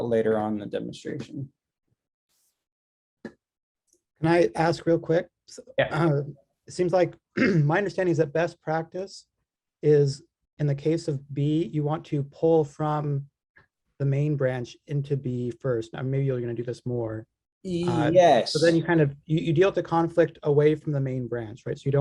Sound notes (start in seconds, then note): 7.3 clears throat